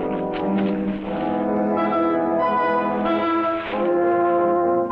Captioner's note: tense orchestral music continues; bushes rustling